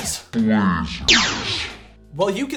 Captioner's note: demon voice; laser fires